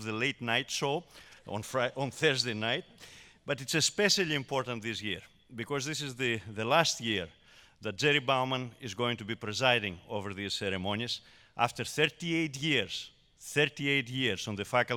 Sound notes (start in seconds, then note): none